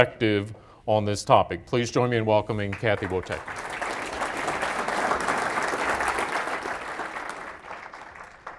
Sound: applause

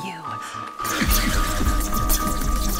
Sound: sci-fi buzzing

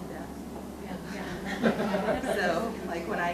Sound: audience laughs

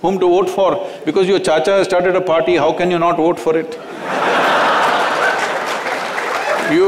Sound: laughter

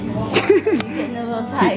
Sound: laughs

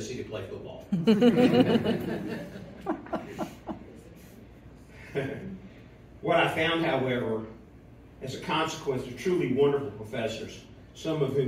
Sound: laughter

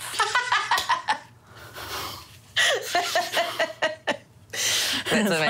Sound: laughs

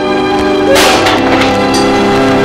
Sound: brush clatters

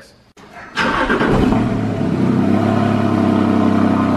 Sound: engine rumbling

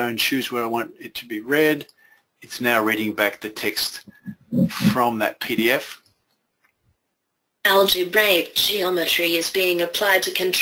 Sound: computer speaking

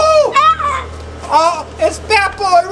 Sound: screams

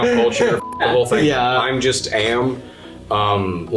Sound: beeps

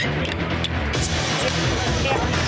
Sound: loud chatter

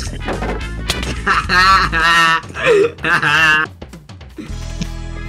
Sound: laughing

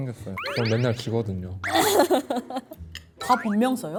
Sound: whimper

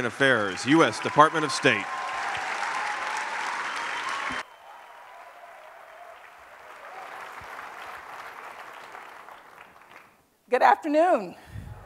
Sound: applause

